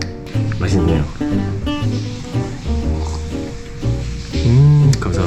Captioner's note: impressed